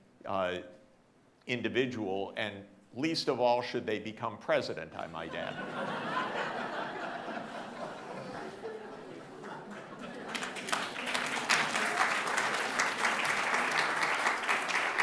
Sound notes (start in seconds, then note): 6.0 audience laughing; 10.7 audience applauding